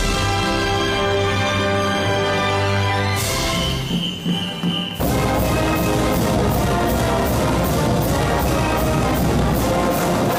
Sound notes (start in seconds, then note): 2.9 whistles toot; 3.7 driving music